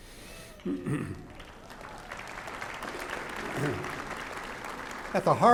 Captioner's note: applause